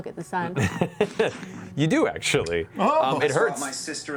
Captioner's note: laughs